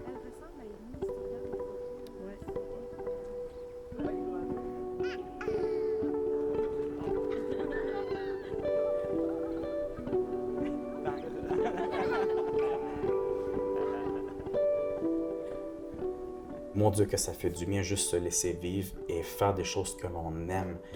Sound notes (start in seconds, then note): 5.0 baby babbling; 10.6 laughter